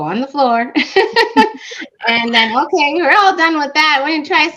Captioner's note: laughter